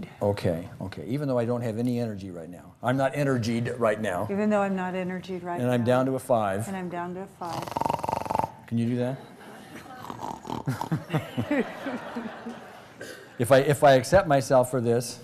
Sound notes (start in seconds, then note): 7.4 snoring; 10.6 laughter